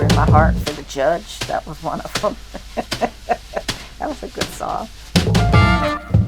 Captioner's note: laughs